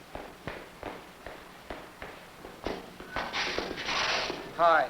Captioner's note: footsteps approaching